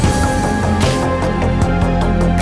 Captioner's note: none